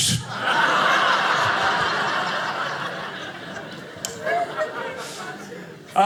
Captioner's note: audience laughing